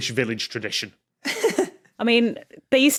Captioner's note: giggles